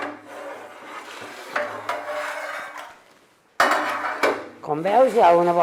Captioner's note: metal banging